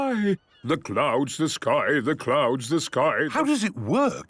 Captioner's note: sing-sing voice